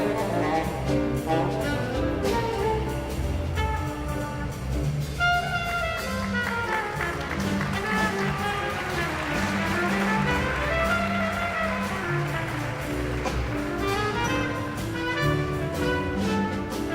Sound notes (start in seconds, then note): 2.5 exhilarating jazz music continues; 6.0 guests applauding; 12.3 exhilarating jazz music continues